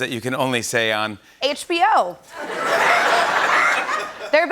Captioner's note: laughter